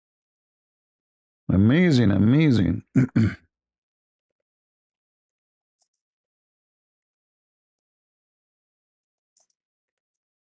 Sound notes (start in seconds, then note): 2.8 berdehem